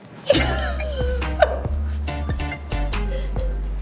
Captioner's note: Apryl laughs